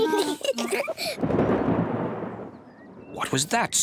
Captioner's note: both giggle; thunder rumbling